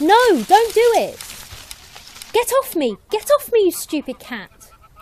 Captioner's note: leaves rustle